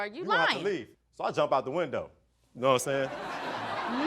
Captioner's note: audience laughs